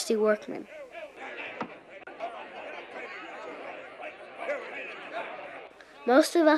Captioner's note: men chanting